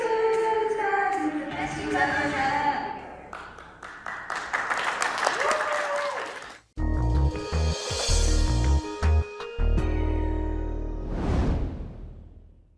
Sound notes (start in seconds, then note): 3.2 audience clapping and cheering